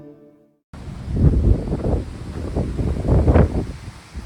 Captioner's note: wind blowing and footsteps